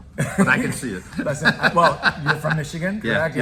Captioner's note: laughs